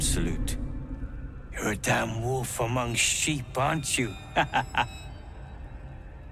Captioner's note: laughs